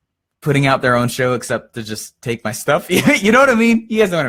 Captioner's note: laughs